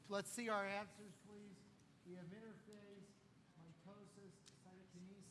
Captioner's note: none